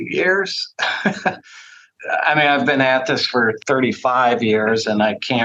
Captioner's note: laughs